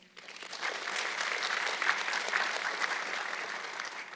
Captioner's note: audience clapping